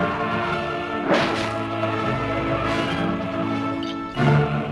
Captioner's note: sword slices